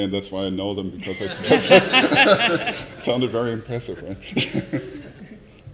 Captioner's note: laugh